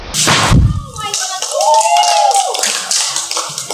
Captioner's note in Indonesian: suara orang bersorak dan bertepuk tangan